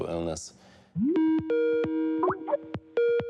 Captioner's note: skype dial tone